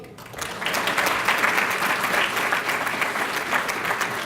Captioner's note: applause